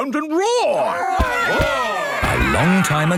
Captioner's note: all roaring